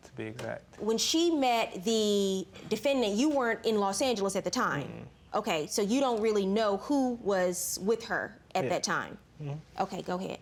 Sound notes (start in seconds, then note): none